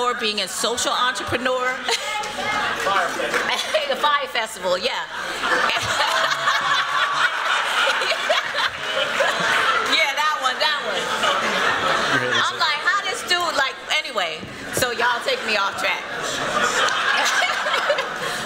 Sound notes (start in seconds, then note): 5.2 laughter; 16.2 laughter